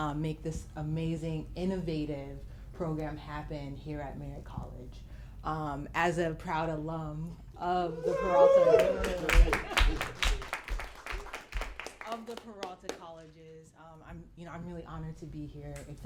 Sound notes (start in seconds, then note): 8.6 applause